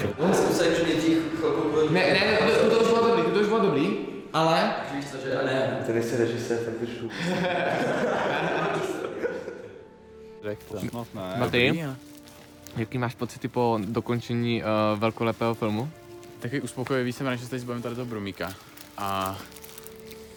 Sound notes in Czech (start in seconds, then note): 7.1 Smích